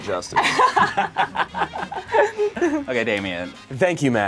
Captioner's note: laughs